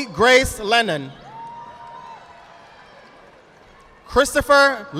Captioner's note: audience applauding